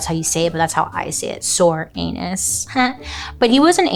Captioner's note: laughs